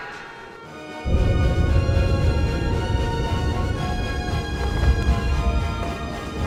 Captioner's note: intense music; craft rumbling